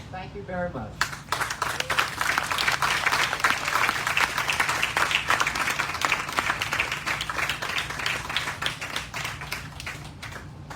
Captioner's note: applause